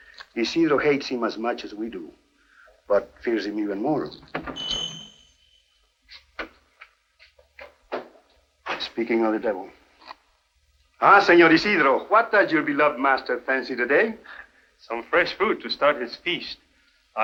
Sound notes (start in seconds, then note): 4.6 bell rings